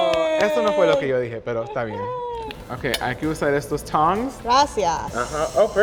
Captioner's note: speaking Spanish